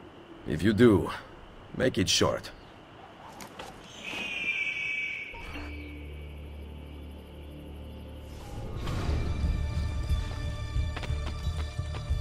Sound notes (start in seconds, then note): 3.8 eagle screech